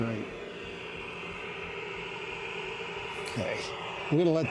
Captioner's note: static buzzing